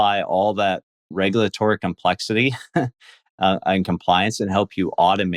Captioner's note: laughs